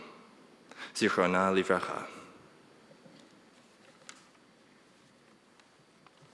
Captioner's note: speaking in foreign language